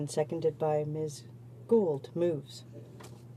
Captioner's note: speaking in french